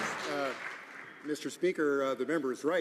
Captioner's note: some Applause